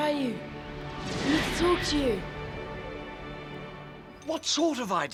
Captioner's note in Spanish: zumbido